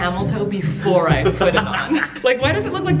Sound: laughs

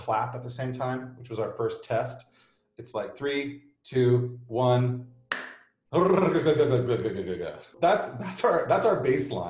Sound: clap

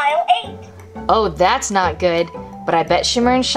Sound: voiceover

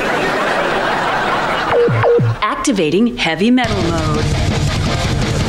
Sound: beeping

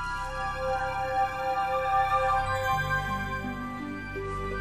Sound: tinkling

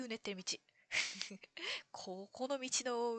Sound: laughs

